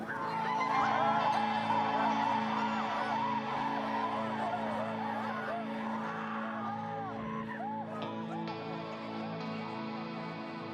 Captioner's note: students cheering